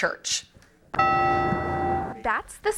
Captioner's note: church bell